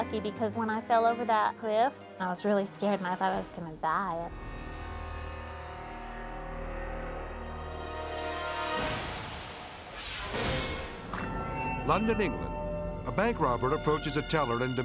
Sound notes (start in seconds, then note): 4.4 edgy dramatic music; 8.8 dramatic whoosh